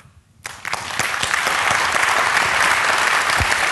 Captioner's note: applause